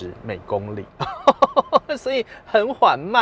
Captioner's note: laughs